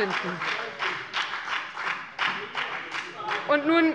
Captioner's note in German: Beifall bei der : Wegen der Dienstwagen!